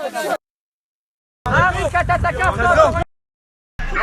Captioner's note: indistinct shouting; indistinct shouting